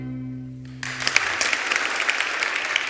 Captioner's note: applause